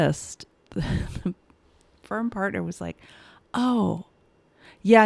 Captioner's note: chuckles